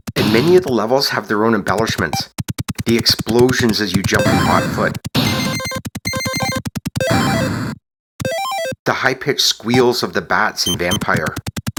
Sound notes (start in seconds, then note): 5.1 explosions; 11.6 high pitched squeal